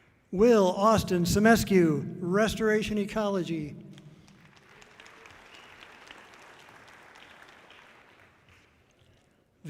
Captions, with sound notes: Will Austin Simescu, Restoration Ecology. (audience clapping loudly)